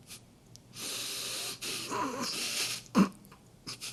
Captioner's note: snickering continues